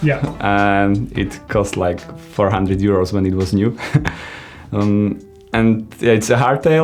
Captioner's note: laughs